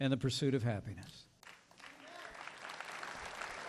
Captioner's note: applause